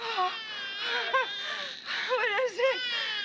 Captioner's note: baby crying